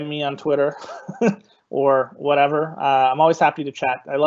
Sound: laughing

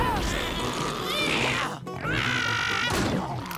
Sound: grunting

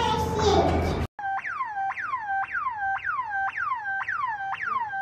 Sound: siren blares

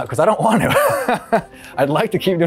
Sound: laughs

